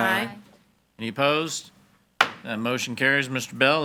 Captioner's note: hammer slamming